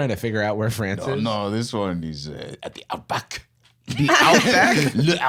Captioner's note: French accent